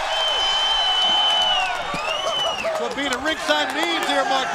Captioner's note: crowd cheering